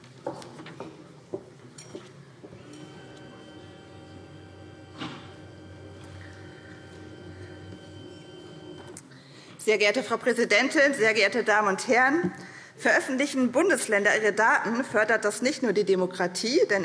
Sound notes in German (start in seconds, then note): none